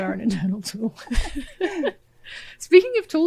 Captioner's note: both chuckle